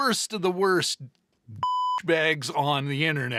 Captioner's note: beep